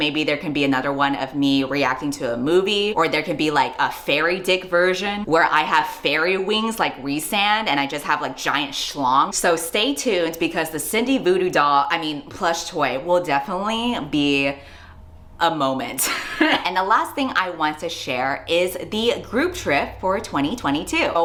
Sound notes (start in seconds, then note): 16.0 laughs